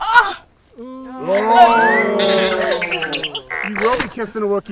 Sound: crowd booing

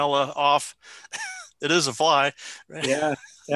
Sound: chuckling

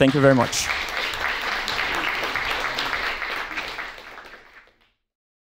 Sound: audience applauds

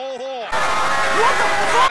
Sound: audience loudly disapproves

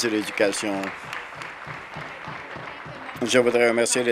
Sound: applause

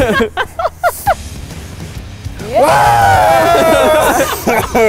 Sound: laughing; screaming

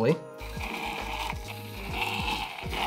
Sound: foaming sound

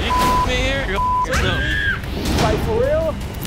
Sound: yells

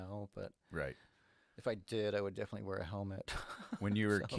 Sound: chuckles

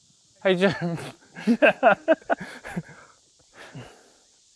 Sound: chuckles

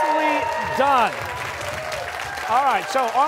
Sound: cheers and applause

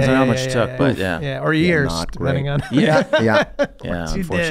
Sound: Charlie laughs

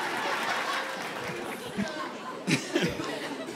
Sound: applause

